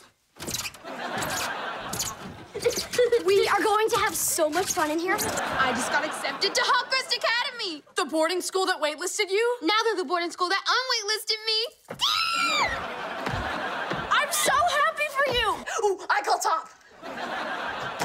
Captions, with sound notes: [laughing] We are going to have so much fun in here. I just got accepted to Hawk Crest Academy! The boarding school that wait-listed you? Now they're the boarding school that unwait-listed me! [screaming] I'm so happy for you! Oh, I call top! [laughing]